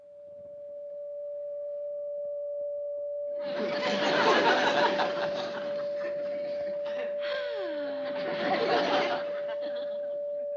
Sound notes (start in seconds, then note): 0.1 tv static; 6.9 sighs